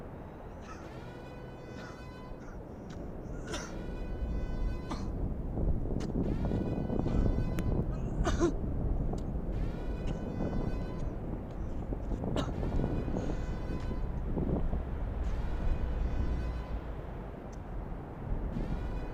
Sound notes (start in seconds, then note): 5.0 coughing; 15.0 radiation siren